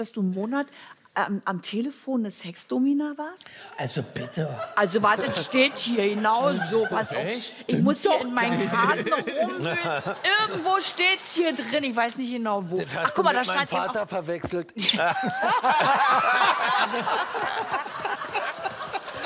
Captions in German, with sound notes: Stimmt es, dass du einen Monat lang eine Telefon-Sex-Domina warst? Also bitte. - Das steht hier, genau so. Stimmt doch gar nicht. - Ich muss in meinen Karten wühlen. Irgendwo steht es hier drin. Ich weiß nicht, wo. Du hast das mit meinem Vater verwechselt. *Lachen*